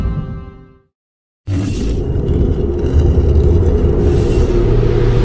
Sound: dramatic sounds continuing

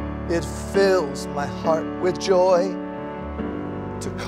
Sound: none

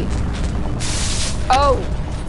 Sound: sizzle

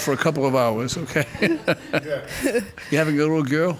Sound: laughing

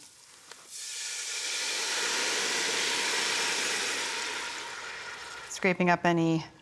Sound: sizzling

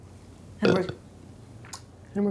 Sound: burps

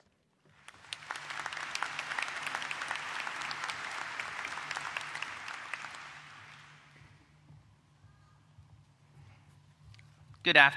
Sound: applause

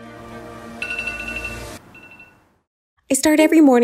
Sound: beeping

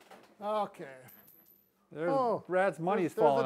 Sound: coins clinking

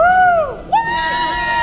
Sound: wooing excitedly

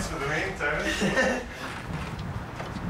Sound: laughs

